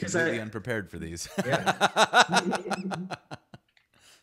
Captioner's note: laughing